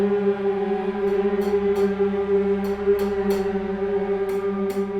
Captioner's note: knife tapping